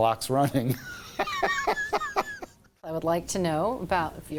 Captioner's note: laughs